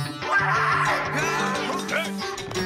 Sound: hybrids agreeing

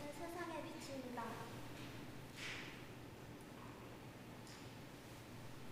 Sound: woman speaking in Korean

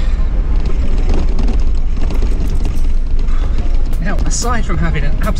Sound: car rattles

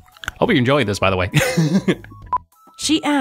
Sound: laughs

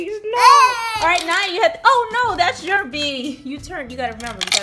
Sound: voiceover

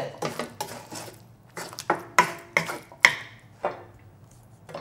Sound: dishes clanking

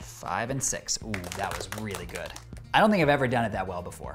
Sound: audience applauds

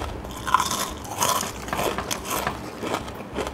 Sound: crunch

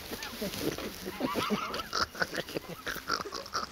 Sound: laughs

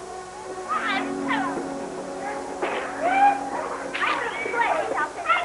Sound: children shouting; shouting continues

